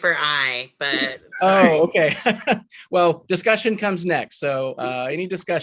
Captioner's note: laughs